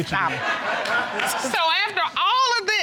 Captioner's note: audience laughs